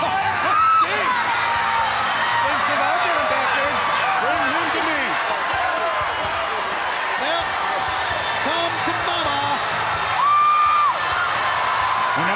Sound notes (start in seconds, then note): 1.3 crowd screaming; 2.6 Brain and Tony chatting; 4.0 crowd screaming; 10.0 crowd cheering